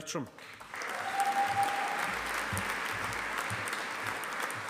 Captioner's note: audience applauding